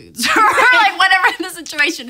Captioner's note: laughs